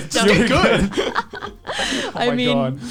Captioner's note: laughs